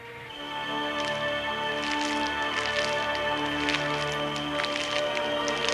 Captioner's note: threatening music; footsteps